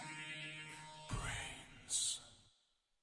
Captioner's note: whispering